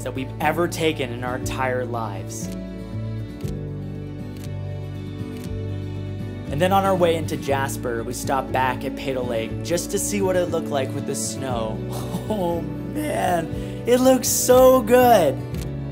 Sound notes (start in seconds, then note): 2.7 camera snapping; 2.7 gentle music; 12.0 laughs